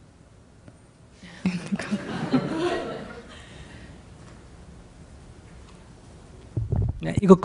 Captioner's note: audience Laughter